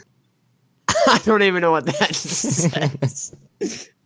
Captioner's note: laughs